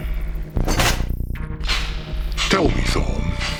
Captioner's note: tools clanging